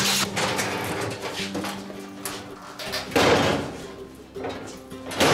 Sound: metal clashing

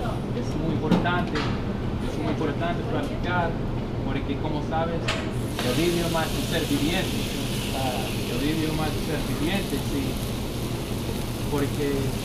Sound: spanish

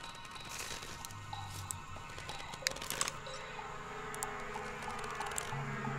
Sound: blood dripping

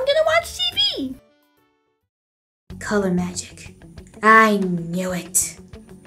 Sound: whispering

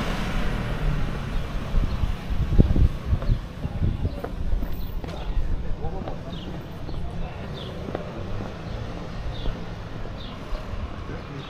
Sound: people chattering

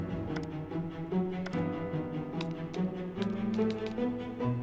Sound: suspenseful music; keyboard clicks

